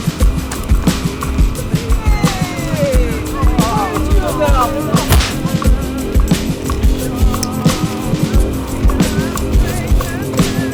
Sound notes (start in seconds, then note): 5.0 fist smacking; 6.8 upbeat music continues